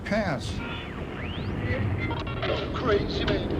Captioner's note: stations tuning